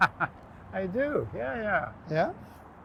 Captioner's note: laughter